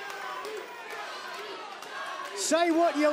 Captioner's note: fans chanting